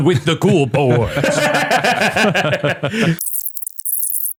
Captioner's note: all laugh